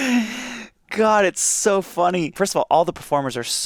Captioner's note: chuckling